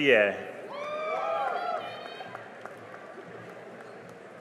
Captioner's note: cheering and applause